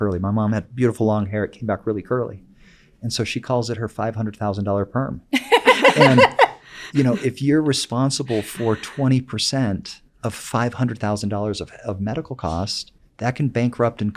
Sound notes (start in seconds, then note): 5.3 laugh